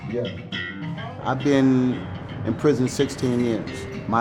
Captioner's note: indistinct chatter